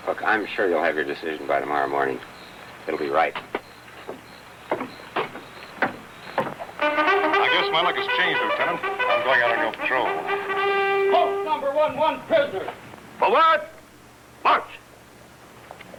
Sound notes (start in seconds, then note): 4.8 foot steps; 6.7 bugle